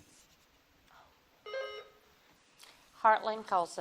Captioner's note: bell dings